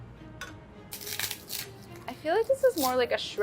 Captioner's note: agar crackles